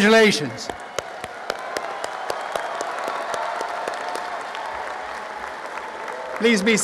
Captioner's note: applause and cheering